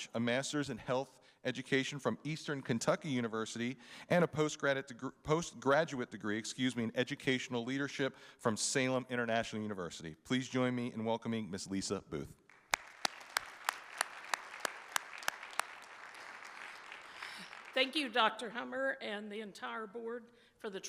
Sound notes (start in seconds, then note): 12.5 audience applauding